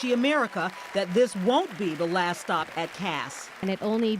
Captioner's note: cheering